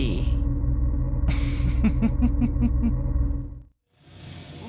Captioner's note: chuckle